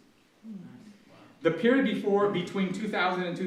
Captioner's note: audience murmurs